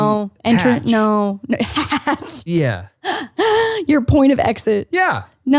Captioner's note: laughs